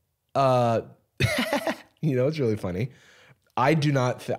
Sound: laughs

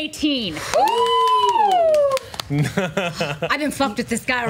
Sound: cheers

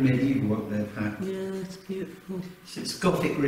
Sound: pat

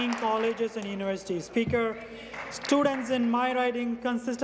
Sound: applause

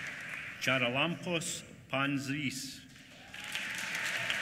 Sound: applause

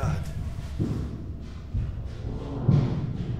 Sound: footsteps above

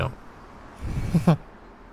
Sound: chuckles

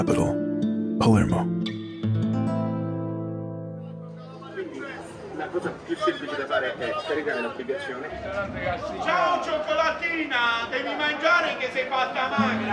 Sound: speaking Italian

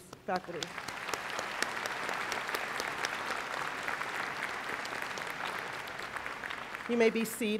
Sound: applause

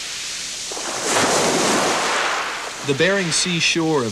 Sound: waves crashing

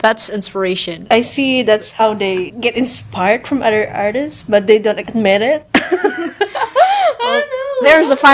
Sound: chuckles

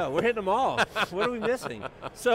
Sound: both laughing

